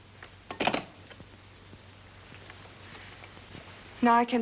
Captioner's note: phone sets into receiver